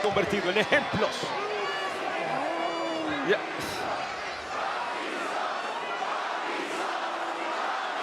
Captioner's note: applause